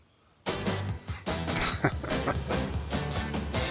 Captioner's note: chuckling